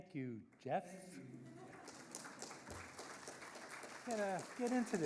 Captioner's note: audience laughing and applauding